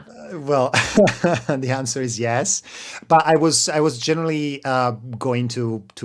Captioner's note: laughs